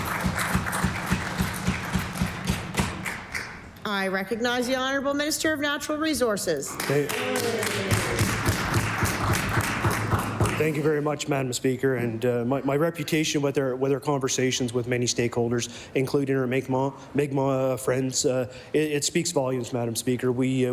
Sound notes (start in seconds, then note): 2.6 applause; 11.1 cheering & Applause